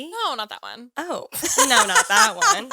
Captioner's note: laughs